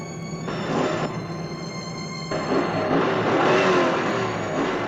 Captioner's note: engine revving